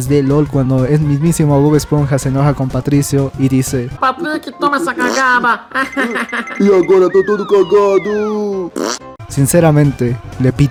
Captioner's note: laughs